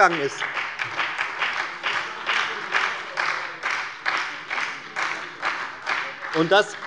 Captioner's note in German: Beifall bei der FDP und der SPD